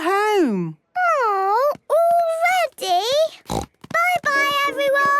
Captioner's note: snort